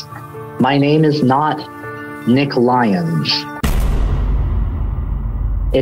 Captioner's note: bang